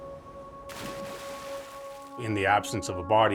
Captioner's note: water splashes